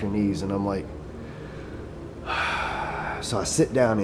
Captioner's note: exhales